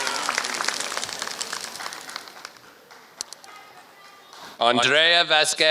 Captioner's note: applause